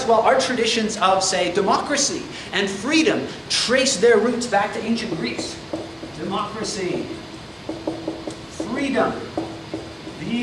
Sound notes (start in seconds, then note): 7.6 marker clacks